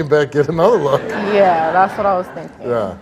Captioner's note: audience laughs